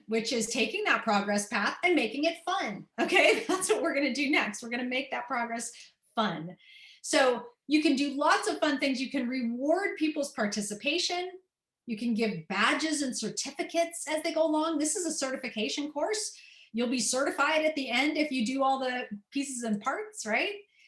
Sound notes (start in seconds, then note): 3.0 laughter